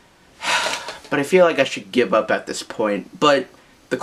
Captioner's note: sigh